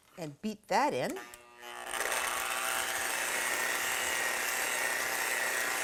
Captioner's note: whirring